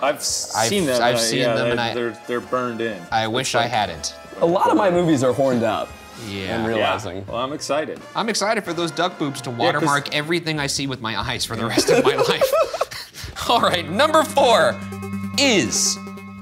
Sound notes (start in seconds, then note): 11.6 laughing